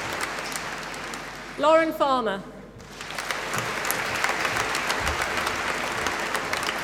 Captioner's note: applause